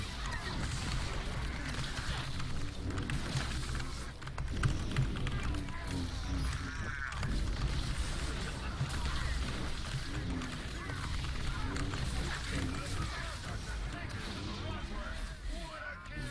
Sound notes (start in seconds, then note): 0.0 loser keyboard noises